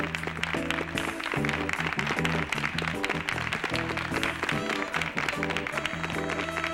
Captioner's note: audience applauding; funky music